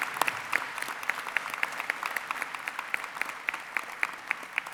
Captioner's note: applause